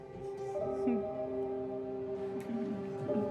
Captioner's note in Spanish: ella ríe